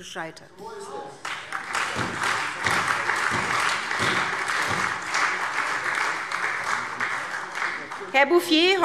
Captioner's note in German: Beifall SPD und Freie Demokraten